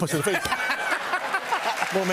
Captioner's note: laughter and applause